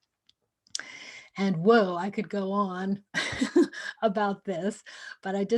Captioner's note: laughter